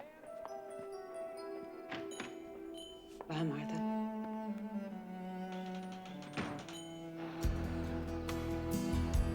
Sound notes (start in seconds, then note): 5.5 door closes